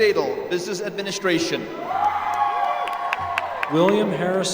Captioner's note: applause